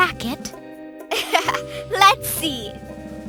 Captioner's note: laughs